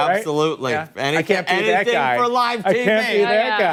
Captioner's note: laughter